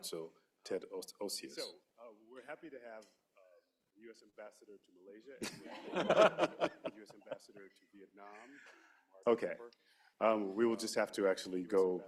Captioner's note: laughter